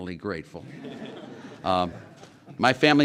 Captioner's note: laughter